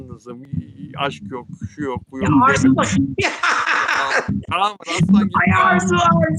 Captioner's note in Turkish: kahkaha